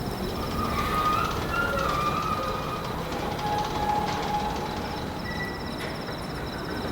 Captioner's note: wind turbine blades squeaking